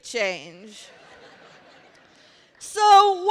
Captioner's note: laughter